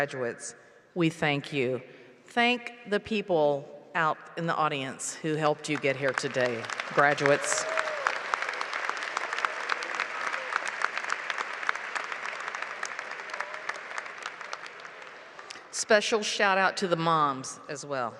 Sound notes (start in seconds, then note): 13.3 applause